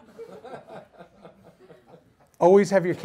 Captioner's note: audience laughs